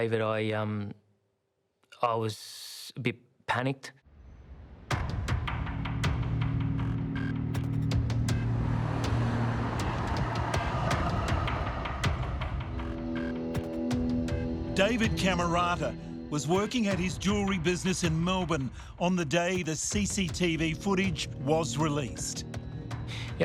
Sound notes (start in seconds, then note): 5.0 dramatic music; 7.6 car engines revving; 11.3 dramatic music